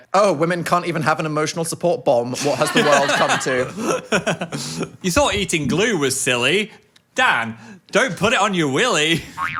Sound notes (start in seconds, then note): 2.4 producer laughs